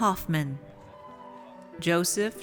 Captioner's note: audience cheers